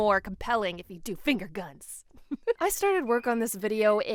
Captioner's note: laughs